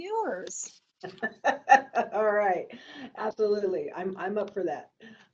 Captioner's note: laughs